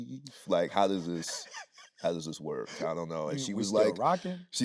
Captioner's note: Anthony laughing